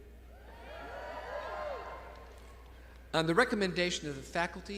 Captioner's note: graduates cheering